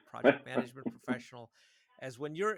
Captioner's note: chuckles